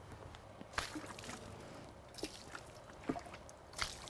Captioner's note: water splashing